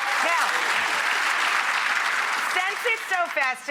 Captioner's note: applause